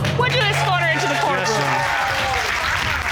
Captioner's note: cheers and applause